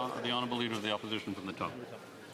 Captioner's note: speaking French